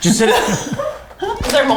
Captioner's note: laughs